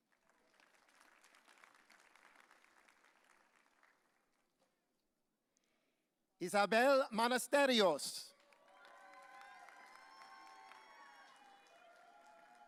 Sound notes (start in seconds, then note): 0.0 audience applauding; 8.6 audience cheering